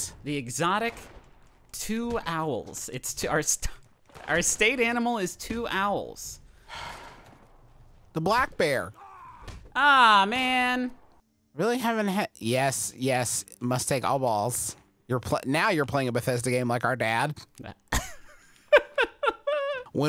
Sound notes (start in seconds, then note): 6.7 sighs; 18.7 laughing